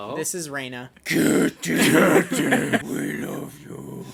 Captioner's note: guttural voice